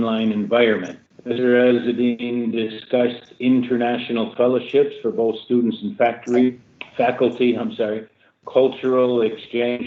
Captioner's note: audio breaks up